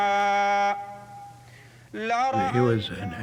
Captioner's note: praying in Arabic